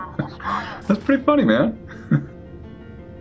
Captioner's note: Ludlow laughs